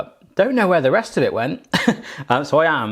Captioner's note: laughs